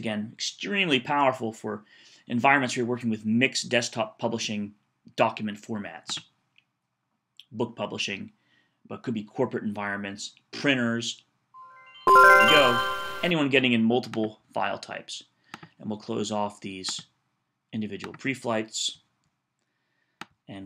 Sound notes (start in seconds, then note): 11.6 computer chimes